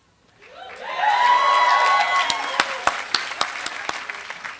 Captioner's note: applause